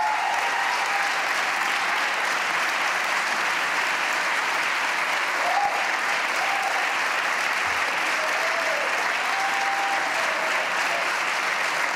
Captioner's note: applause